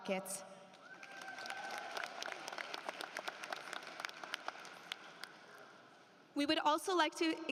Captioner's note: applause